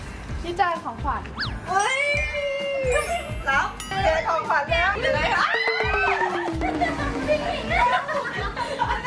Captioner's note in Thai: เสียงกรีดร้อง